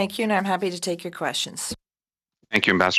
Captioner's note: speaking French